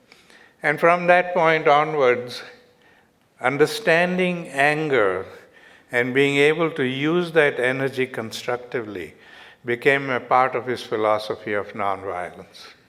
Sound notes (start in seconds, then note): none